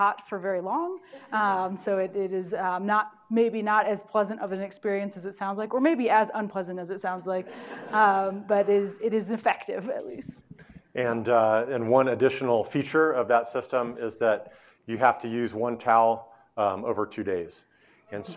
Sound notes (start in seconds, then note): 7.5 audience laughing